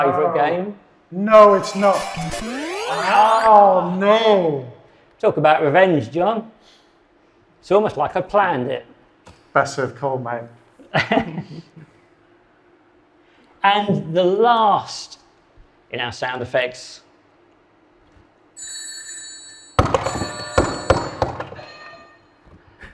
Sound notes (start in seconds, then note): 1.4 video games beeping; 11.0 chuckles; 18.6 bell rings; 19.8 buzzers thudding